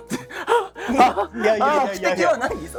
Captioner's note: panting noises